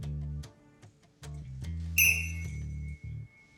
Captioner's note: blows whistle